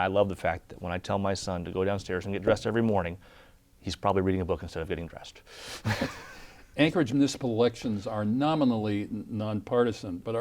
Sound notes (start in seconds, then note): 5.8 laughter